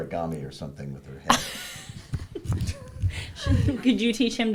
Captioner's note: laughing